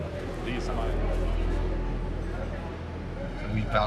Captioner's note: guests chattering